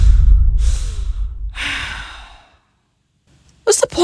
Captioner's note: heavy panting